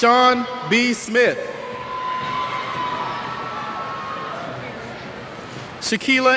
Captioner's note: cheers